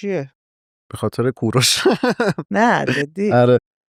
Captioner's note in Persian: خنده